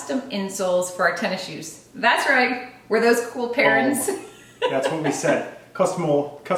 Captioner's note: laugh